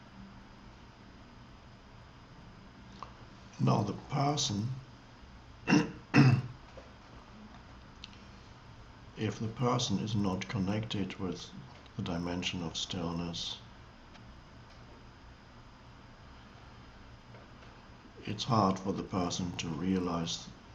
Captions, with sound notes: Now, the person... (clears throat) If the person is not connected with the dimension of stillness, it's hard for the person to realize